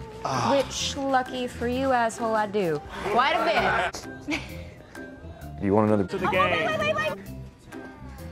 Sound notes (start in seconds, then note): 4.2 laughs